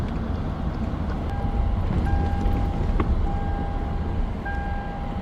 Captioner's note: car beeping